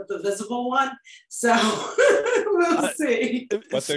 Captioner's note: laughs